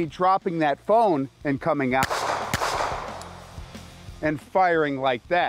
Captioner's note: gunshots